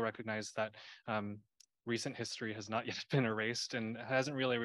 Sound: laughter

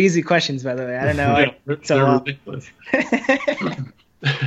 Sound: laughter

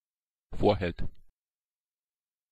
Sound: fast Pronunciation

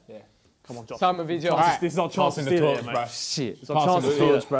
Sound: crowd mumbling

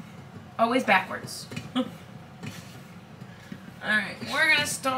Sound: laughs

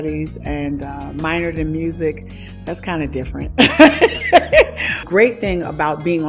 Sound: laughs

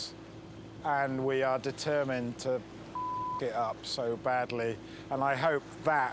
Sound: beep

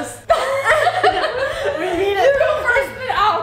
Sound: laughing

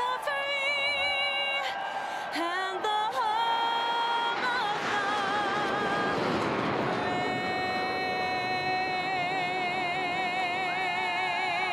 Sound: cheers and applause

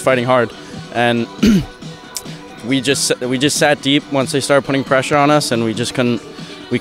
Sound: clears throat

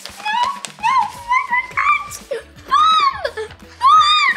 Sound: screaming

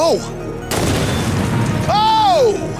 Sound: explosion booms

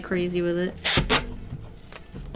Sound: tape ripping off

